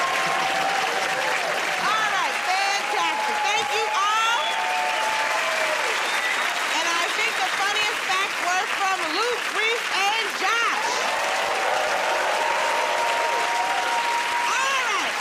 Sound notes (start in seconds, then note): 0.2 cheering and applause; 5.3 cheering and applause; 11.1 cheering and applause